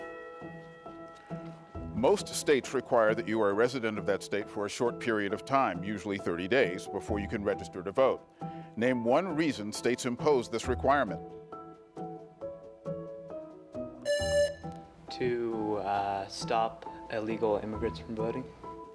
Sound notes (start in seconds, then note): 0.2 pensive music continues; 11.6 pensive music continues; 14.0 buzzer rings